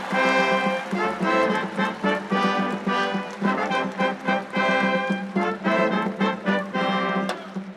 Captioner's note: applause